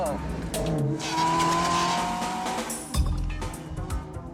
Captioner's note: engine revving